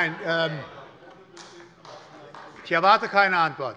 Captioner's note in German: Allgemeine Heiterkeit